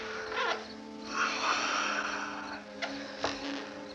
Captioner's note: sighs